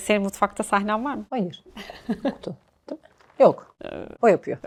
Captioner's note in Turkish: kahkaha